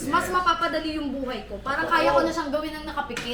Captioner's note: none